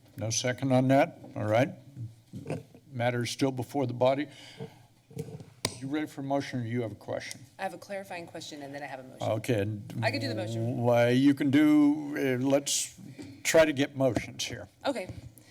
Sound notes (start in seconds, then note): 4.6 mic sounds